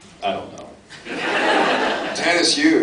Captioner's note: laughs